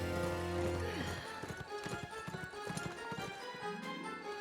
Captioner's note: sighs